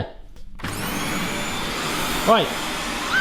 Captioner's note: vacuum humming loudly